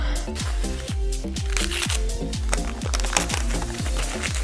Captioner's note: paper crackles